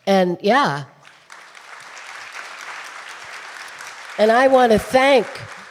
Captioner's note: audience applauding